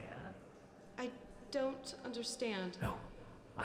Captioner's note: whisper